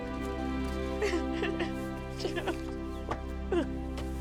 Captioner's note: crying